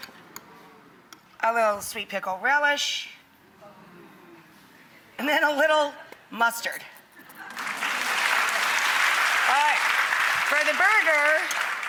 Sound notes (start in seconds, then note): 7.4 applause